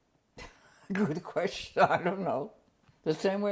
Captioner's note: laughs